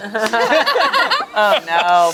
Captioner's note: everyone laughs